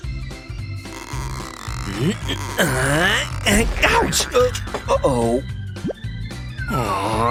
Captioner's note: grunting